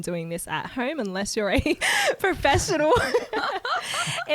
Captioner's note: laughs